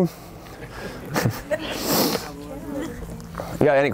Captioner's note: laughs